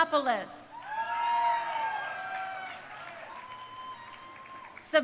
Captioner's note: crowd cheering